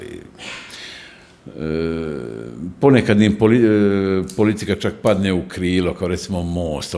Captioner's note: sigh